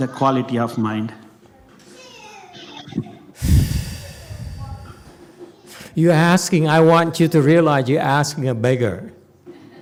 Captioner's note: sighs